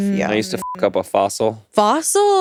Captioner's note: beep